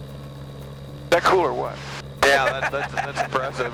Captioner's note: laughs